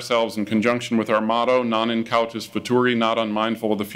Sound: speaking in foreign language

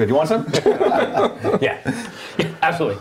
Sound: laughing

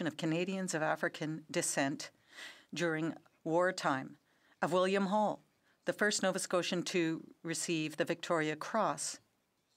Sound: speaking French

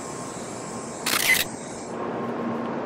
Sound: click

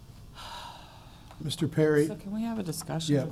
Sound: sighs

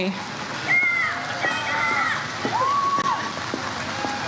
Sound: audience cheers

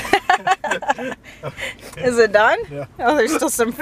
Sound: laughs

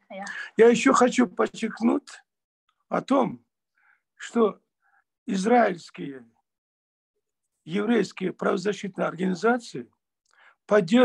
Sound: in Russian

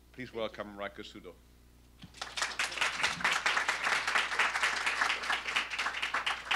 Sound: applause

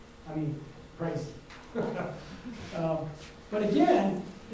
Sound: chuckles

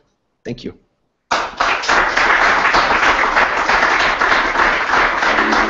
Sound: applause

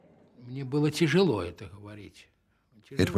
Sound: speaking Russian

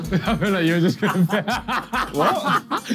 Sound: laughs

